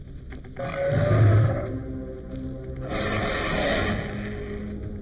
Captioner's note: shark roaring